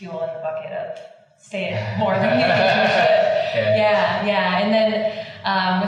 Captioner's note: laughing